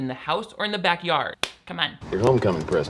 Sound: claps hands once

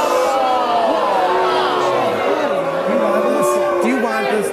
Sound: audience boos

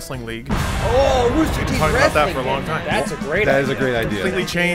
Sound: crowd noises

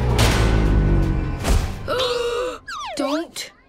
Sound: gasping

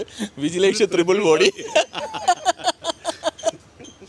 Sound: laughs

